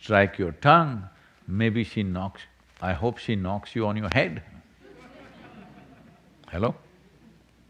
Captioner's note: few laugh